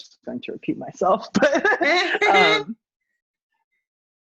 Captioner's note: laughs